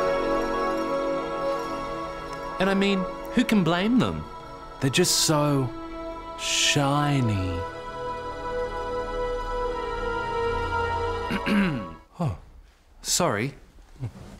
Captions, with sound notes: And, I mean, who can blame them? They're just so shiny. (CLEARS THROAT) Oh, sorry.